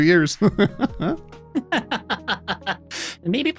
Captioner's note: laughing